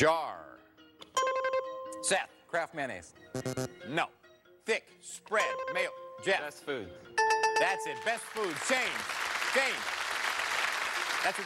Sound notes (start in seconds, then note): 3.4 bell buzzes; 3.4 buzzer rings; 5.6 buzzer rings; 7.2 bell rings; 10.1 cheers and applause